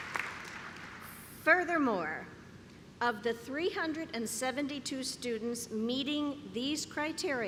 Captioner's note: clapping